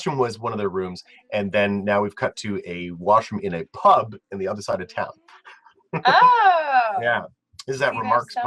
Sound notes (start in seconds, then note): 5.9 laugh